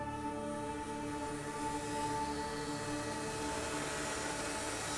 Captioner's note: buzzing tool